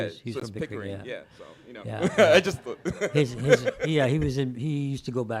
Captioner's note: chuckle